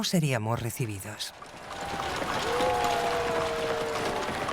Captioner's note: crowd cheering